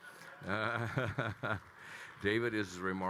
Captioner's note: attendees clapping; Kyle laughing